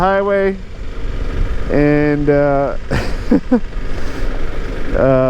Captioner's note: laughs